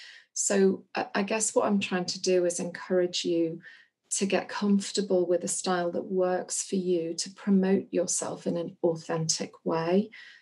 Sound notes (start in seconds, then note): none